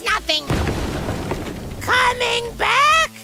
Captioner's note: crash